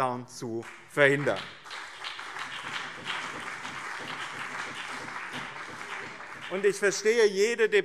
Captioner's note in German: Beifall BÜNDNIS 90/DIE GRÜNEN und CDU